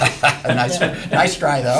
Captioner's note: laughter